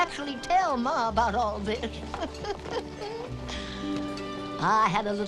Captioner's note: chuckling